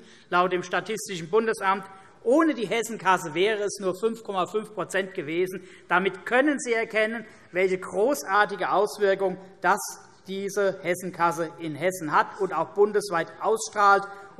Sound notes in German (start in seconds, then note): none